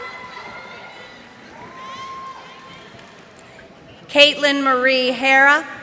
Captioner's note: cheers and applause